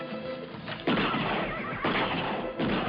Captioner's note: firing shots